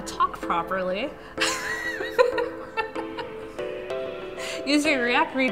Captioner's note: laughter